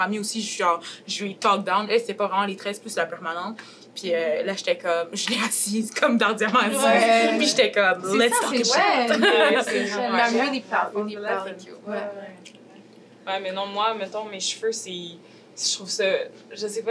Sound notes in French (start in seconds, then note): 9.8 brouhaha